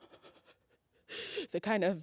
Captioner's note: breathes